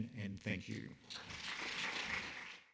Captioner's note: audience clapping